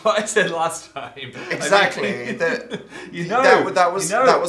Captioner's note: laughing